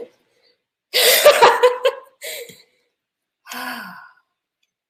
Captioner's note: laughter